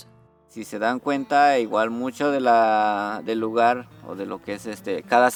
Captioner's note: speaks in a foreign language